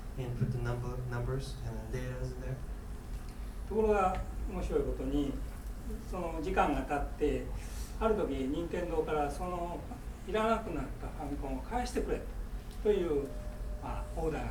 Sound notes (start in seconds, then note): 3.9 speaking in foreign language